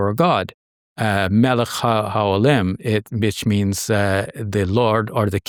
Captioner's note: speaking Arabic